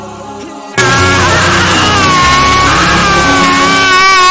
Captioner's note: bass boosted screeching